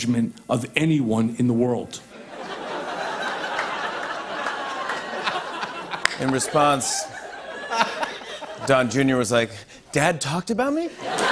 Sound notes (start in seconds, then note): 2.1 laughter